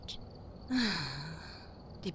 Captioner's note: sighing